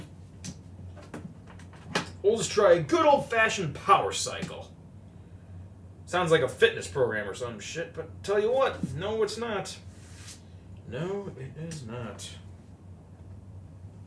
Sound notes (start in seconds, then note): none